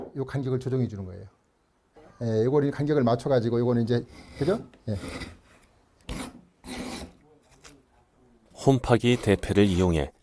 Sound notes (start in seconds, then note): 4.9 planing sound